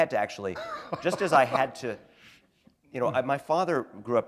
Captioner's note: chuckle